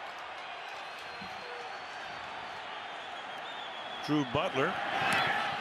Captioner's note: cheers